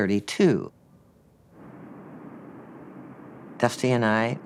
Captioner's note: airplane engine humming